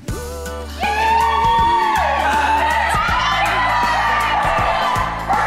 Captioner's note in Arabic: الجميع يهتف